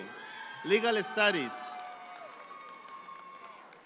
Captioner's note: audience applauding